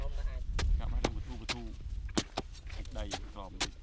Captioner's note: fork digging